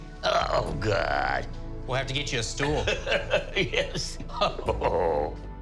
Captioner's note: laughing